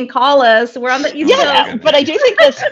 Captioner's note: chuckles